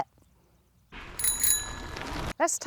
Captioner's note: bell ringing